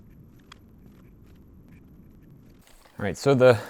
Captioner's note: plastic crinkling